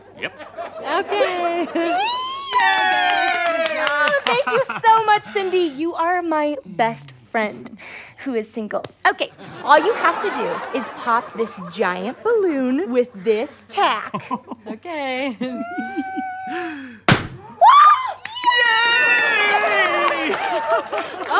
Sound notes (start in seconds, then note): 9.3 audience laughter; 15.2 giggling; 17.0 pop; 17.5 surprised shout